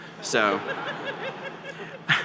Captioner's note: laughter